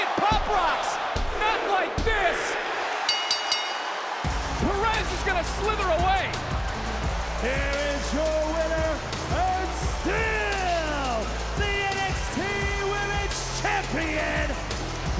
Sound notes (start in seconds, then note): 3.0 bell rings; 3.4 upbeat music